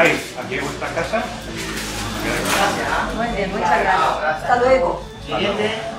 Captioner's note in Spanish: Voces de tienda